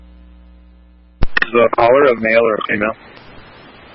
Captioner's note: radio traffic